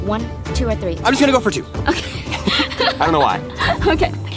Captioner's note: laughs